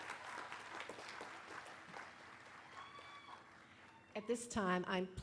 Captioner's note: applause